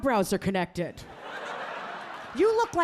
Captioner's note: audience laughing